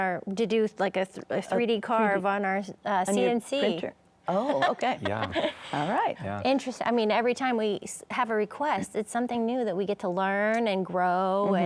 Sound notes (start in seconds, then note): 4.4 laughs